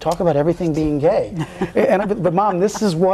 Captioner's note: laughs